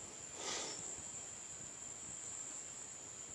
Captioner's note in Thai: เสียงสูดหายใจ